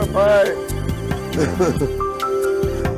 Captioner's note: laughter